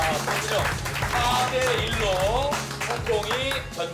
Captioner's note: Applause / The Korean team accepts defeat